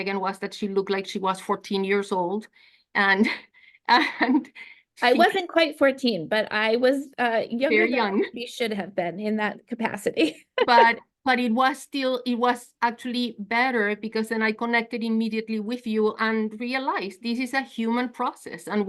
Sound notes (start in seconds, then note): 10.5 laugh